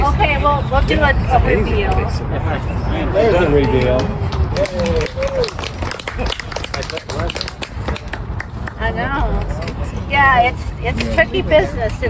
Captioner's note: applause